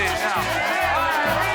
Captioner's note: cheering, music playing